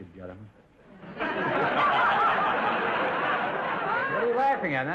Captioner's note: audience laughter